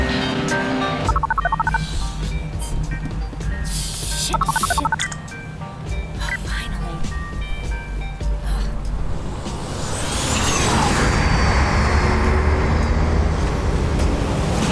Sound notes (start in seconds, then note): 1.1 phone buzz; 9.5 flying car zooms; 12.5 bustling city sounds